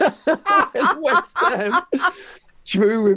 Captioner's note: laughing